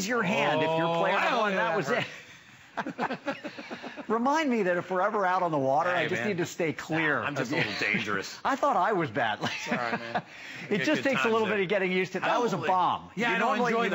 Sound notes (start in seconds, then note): 2.6 laughter